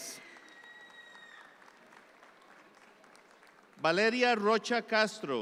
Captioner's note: audience applause continues